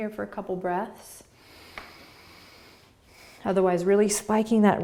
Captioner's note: breathing